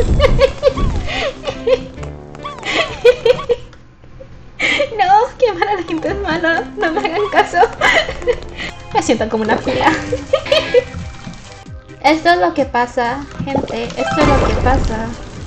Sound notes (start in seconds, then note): 0.2 laughs; 7.9 laughs; 10.1 laughs